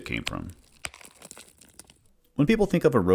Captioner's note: rocks Crumbling